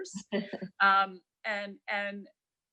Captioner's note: laughing